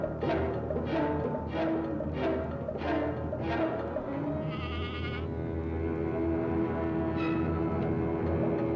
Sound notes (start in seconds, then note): 4.4 goat bleating